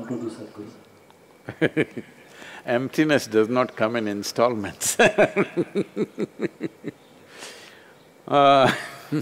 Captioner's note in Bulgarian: Смее се